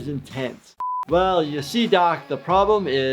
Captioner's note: high pitch beep